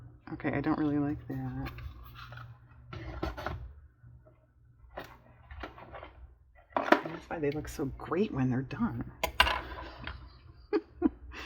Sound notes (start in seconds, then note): 10.1 laughs